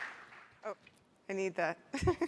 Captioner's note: applause